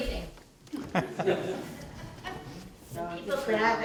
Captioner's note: laughter